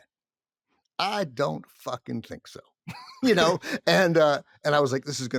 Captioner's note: laughs